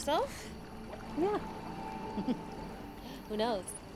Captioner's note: laughs